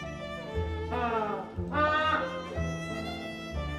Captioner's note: penguin call